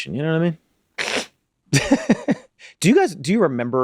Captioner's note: Charlie laughs